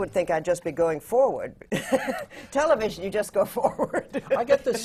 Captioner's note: laughs; laughs